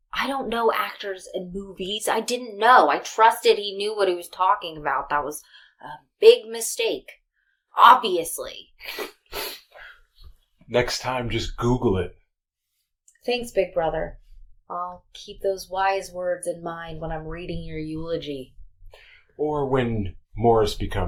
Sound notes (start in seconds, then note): 8.9 soft sniff